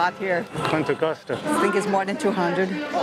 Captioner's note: in Portuguese